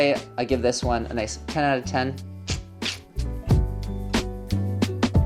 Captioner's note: clicks teeth; smooth music